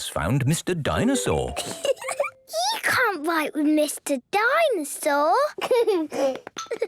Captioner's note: giggling